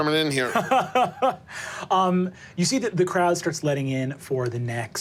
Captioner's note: laughs